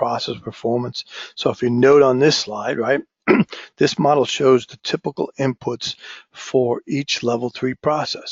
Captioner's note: cough